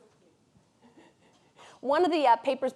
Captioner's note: audience member chuckles